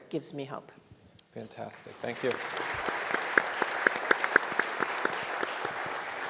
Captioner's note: audience applauding